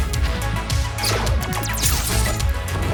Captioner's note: lasers zapping